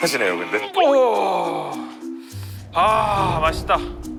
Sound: noisy mouth

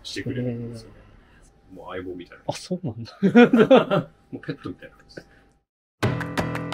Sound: laughs

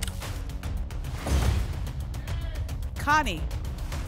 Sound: thump; whoosh

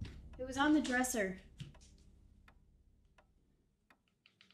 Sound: clock ticking

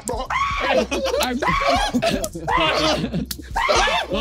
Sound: screaming

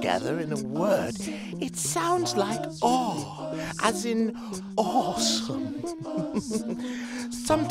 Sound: chuckles

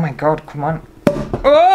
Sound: pop

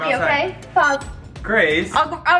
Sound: machine bleeps

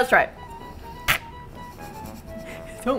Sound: hisses; laughs

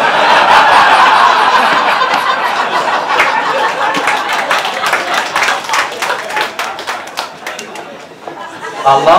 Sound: laughter

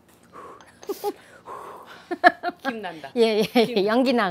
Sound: laughing

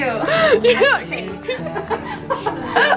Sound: laughter

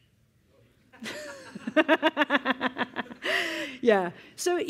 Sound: laughter

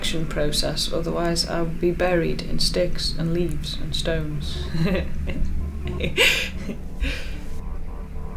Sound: laughs

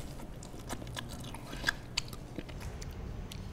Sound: slurping; lip smacking

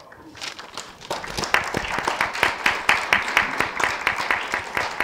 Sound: audience applauding

